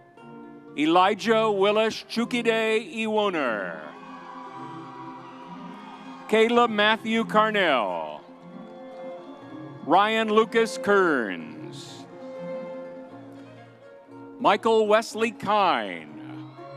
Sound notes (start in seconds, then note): 3.9 audience cheers; 3.9 whimsy music continues; 8.6 soft music; 12.0 soft music continues